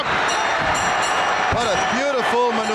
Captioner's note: bell rings